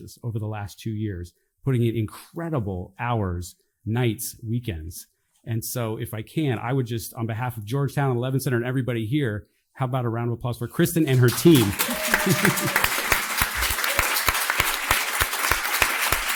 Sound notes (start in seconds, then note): 11.0 audience applauding